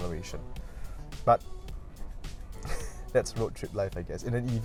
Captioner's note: laughs